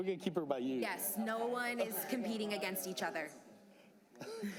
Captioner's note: laughter